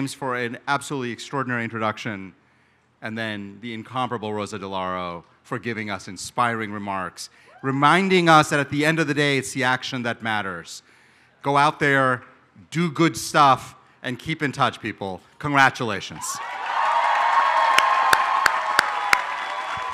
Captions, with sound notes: for an absolutely extraordinary introduction, and then the incomparable Rosa DeLauro, for giving us inspiring remarks, reminding us that at the end of the day, it's the action that matters. Go out there, do good stuff, and keep in touch, people. Congratulations. [APPLAUSE]